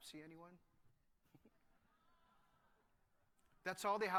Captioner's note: laughter